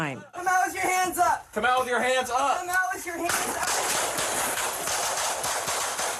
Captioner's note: gunshots